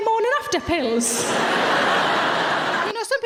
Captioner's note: audience laughing